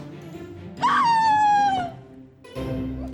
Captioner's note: exasperated yell